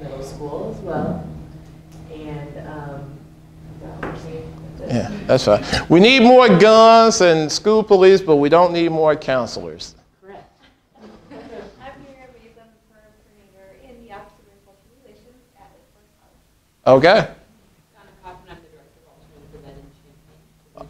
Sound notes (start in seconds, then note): 10.4 laughing